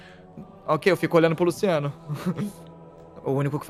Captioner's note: chuckles